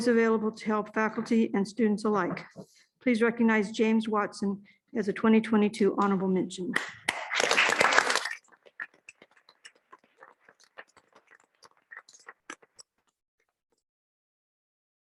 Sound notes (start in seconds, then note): 6.8 applause